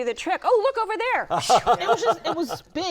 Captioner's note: laughter